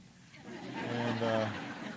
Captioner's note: laughter